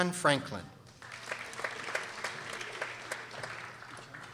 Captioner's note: people applauding